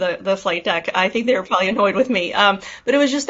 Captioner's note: chuckles